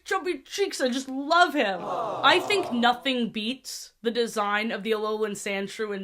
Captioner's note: crowd "aww" sfx